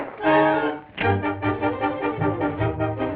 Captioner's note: gun clicks